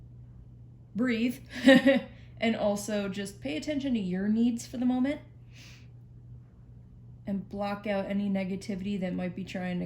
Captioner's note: laughs